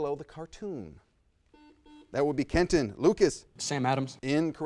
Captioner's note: buzzer sounds